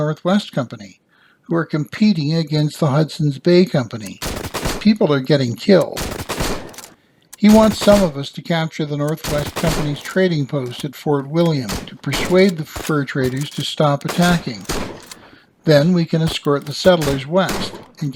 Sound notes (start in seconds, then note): 5.8 musket fire